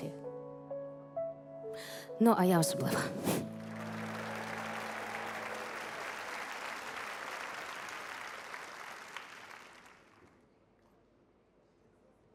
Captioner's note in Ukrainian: оплески